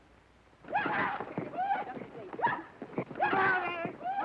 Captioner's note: Lucky whooping